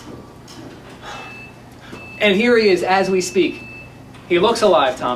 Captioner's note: sighs